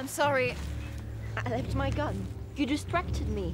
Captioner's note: stuttering